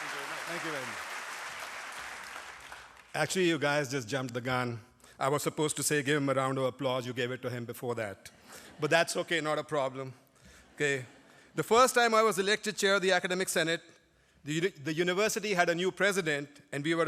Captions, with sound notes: [ APPLAUSE ] ACTUALLY YOU GUYS JUST JUMPED THE GUN. I WAS SUPPOSED TO SAY GIVE HIM A ROUND OF APPLAUSE, YOU GAVE IT TO HIM BEFORE THAT [LAUGHTER], BUT THAT'S OKAY, NOT A PROBLEM. OKAY? THE FIRST TIME I WAS ELECTED CHAIR OF THE ACADEMIC SENATE, THE, THE UNIVERSITY HAD A NEW PRESIDENT